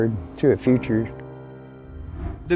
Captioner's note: graphics whooshing